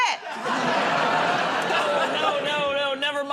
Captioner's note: laughter